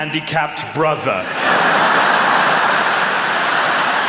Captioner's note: laughter